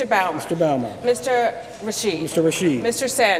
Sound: none

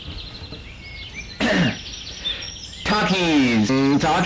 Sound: cough

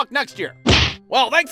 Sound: thwack!

